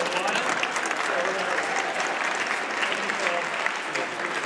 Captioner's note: audience applauds